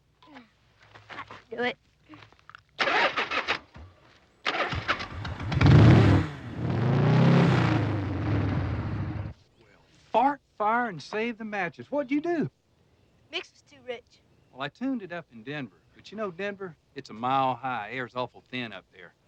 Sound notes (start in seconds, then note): 4.4 engine revving